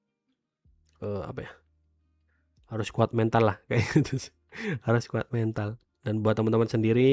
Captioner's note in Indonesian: tertawa